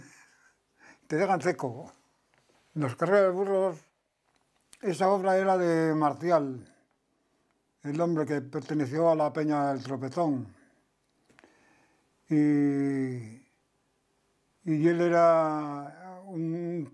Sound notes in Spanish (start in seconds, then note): 0.0 ríe